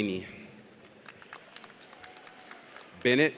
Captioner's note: audience applauds